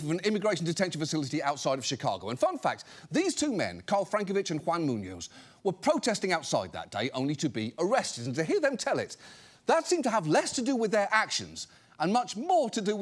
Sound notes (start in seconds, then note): none